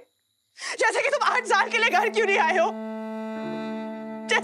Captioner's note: Crying